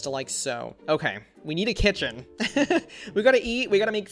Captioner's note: laughs